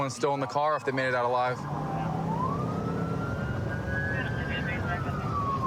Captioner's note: police sirens blaring; dispatch chatter